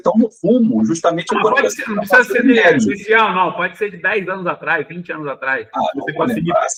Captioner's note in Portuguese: risadas